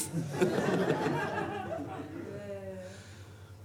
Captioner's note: audience laughs